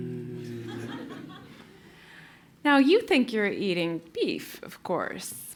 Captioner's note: laugh